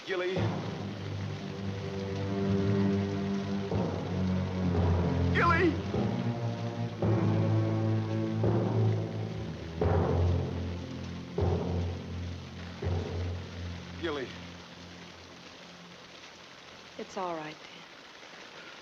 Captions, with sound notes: - Gilly. (dramatic music) Gilly! (dramatic music) Gilly. (rain pattering) - It's all right, Dan.